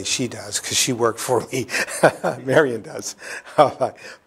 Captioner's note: laughs